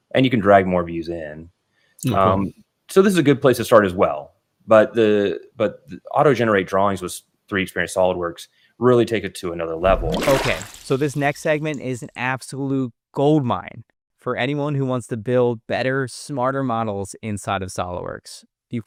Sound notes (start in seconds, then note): 9.8 water splashing